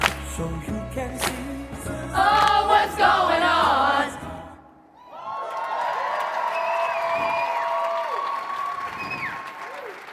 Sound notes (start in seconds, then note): 4.9 audience cheering and clapping